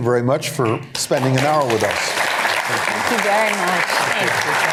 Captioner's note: applause